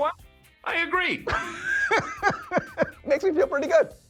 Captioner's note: laughing